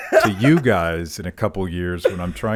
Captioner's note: laughs